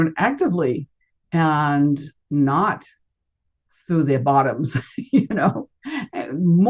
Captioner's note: chuckles